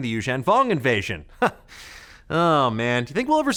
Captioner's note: laughs